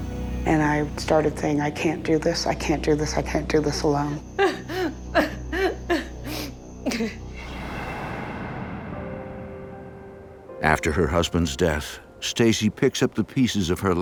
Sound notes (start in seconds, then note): 4.3 sobbing; 8.3 gentle music